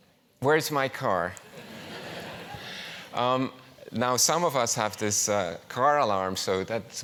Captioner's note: laugh